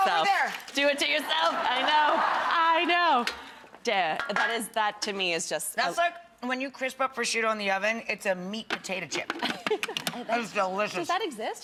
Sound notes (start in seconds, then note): 1.2 audience laughing; 9.4 laughing